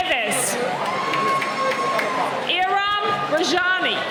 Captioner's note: cheering